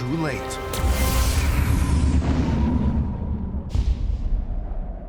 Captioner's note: explosion